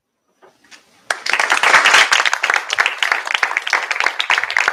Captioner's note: applause